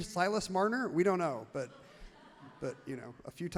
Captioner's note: crowd laughs loudly